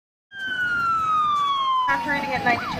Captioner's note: siren